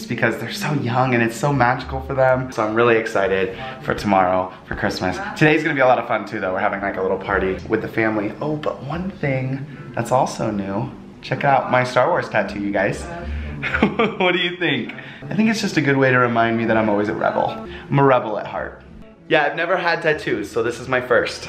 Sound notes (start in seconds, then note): 13.5 laughs